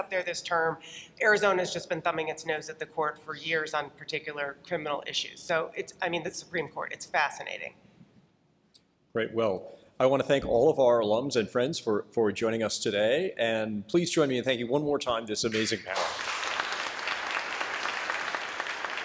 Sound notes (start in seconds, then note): 15.5 applause